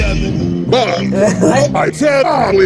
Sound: chuckling

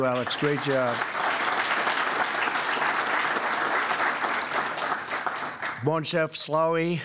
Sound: applause

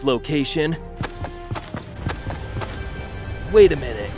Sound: footsteps tapping

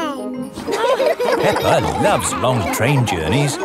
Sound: laughing

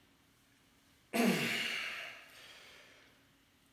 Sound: grunting

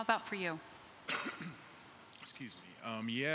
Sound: coughs

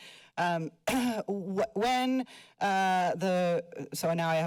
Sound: clears throat

